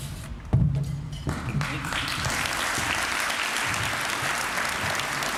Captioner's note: applause